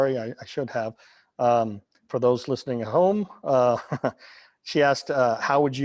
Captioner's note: laughing